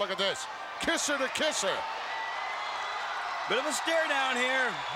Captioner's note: crowd cheers